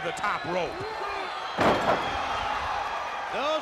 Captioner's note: crowd cheering